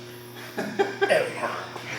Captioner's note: laughs loudly